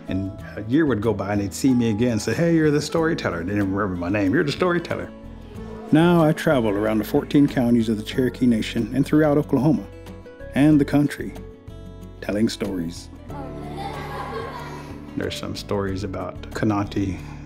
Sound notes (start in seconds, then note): 13.3 children laugh